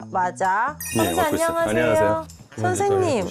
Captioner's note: sound effect of perfect timing arrival